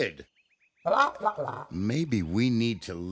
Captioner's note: hooting